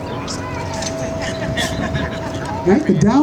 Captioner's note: laughter